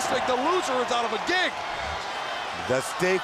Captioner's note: crowd cheering; crowd chatter